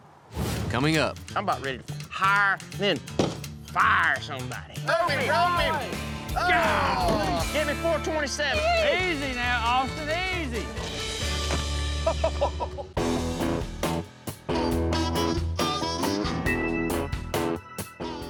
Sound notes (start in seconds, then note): 2.6 slams fist down; 11.9 thud, laughter